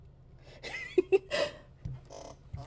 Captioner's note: chuckles